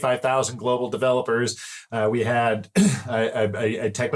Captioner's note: clear throat